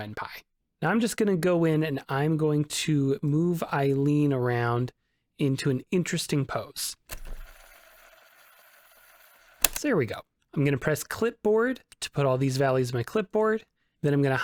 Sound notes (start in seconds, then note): 7.1 fast forward noises